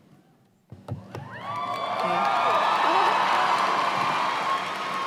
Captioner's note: cheers and applause